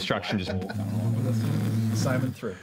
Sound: humming

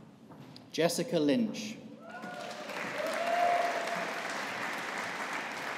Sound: audience applauding

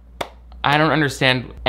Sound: claps

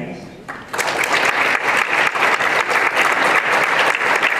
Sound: applause

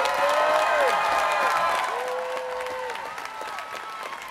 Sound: students cheering

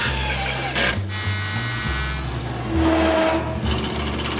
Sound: drill whirring; saw whirring

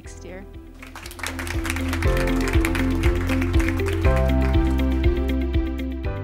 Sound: calm music; applause

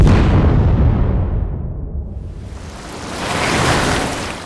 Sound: exploding sound

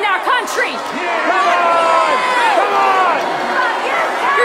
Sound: crowd yelling

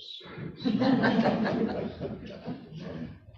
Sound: laughter

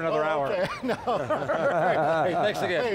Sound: laughs

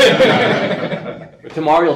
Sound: laughs; audience laughs

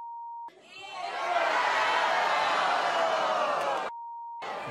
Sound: audience groans

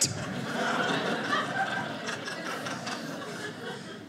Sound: audience laughing

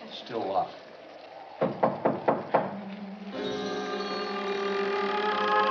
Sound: knocking on door

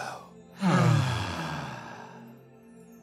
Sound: sighing

